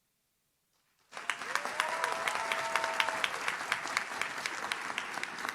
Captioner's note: audience cheers